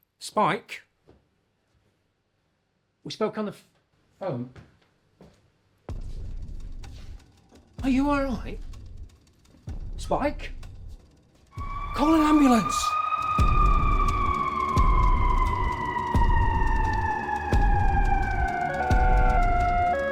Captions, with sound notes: - Spike, we spoke on the phone. (dramatic music) Are you all right? Spike? Call an ambulance! (alarms blaring)